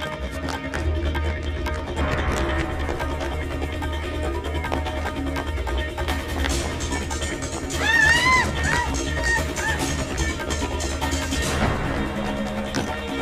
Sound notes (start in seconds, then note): 7.7 woman screams; 8.4 action music